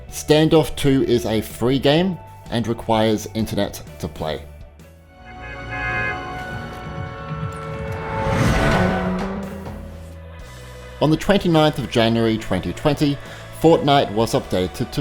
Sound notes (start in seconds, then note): 8.6 flying machine roars